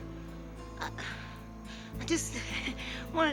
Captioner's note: hesitates; chuckles